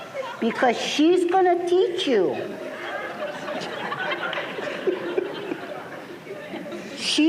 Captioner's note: laughter